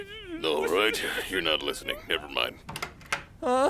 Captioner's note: whimpering